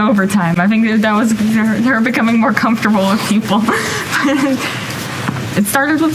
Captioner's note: laughs